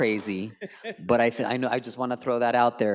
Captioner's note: colleagues laugh